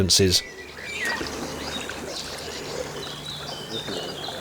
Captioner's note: birdsong